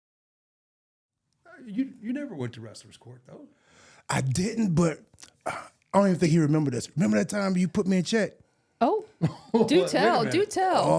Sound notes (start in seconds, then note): 9.2 Mark laughing